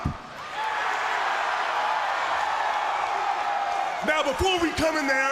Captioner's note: crowd cheering